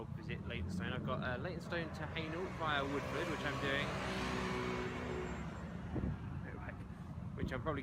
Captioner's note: motorbike noise